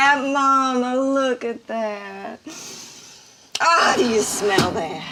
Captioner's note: sniffs